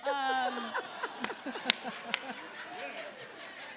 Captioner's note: audience laughing